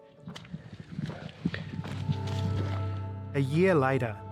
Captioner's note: footsteps crunching; runners panting